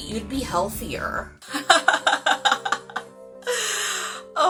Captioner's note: laughing